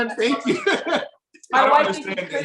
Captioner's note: laughs